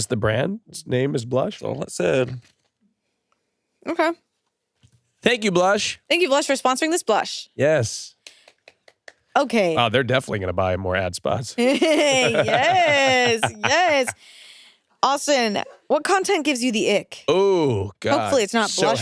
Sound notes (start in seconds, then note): 8.3 applauds; 11.6 laugh